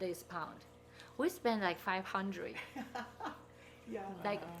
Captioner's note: people laughing